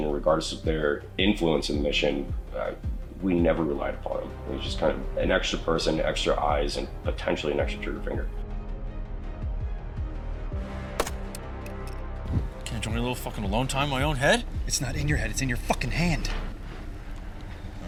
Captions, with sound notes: and regardless of their influence in the mission, we never relied upon 'em. It was just kind of an extra person, extra eyes, and potentially an extra trigger finger. (intense music) (gun bangs) - Can't I enjoy a little fuckin' alone time in my own head? - It's not in your head, it's in your fuckin' hand! (tense music)